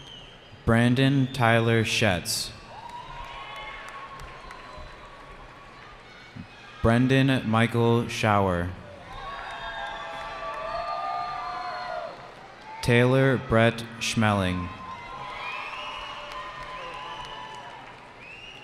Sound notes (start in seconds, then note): 2.5 cheering; 8.9 cheering